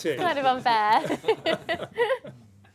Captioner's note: laughter